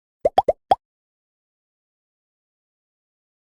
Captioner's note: popping sound